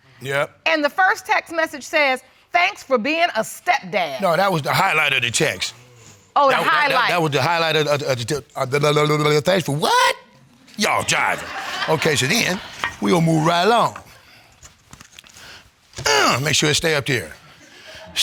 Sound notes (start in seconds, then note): 8.5 stammers; 16.0 grunts